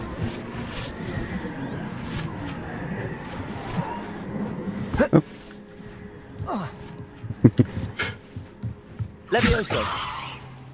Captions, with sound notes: Oop [ muffled laugh ] Levioso